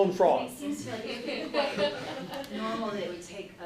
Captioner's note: laughing